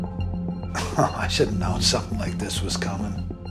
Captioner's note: chuckles